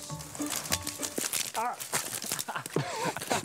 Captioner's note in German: Knistern